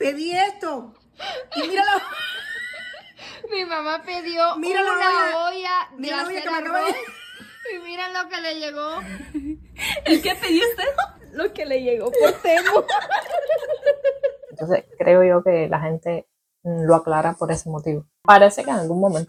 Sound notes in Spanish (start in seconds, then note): 0.0 risas